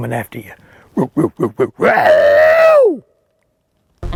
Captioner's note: yells